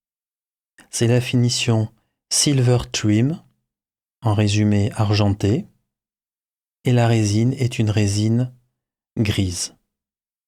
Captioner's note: in french